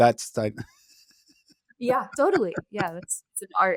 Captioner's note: chuckling